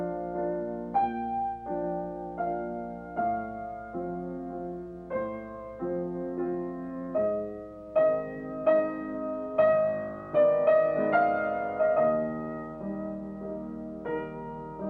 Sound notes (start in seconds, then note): none